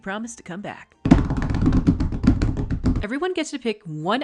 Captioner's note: rapid table slappies